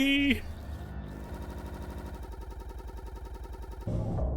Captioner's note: audio stutters